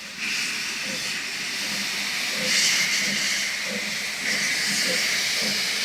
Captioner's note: train passing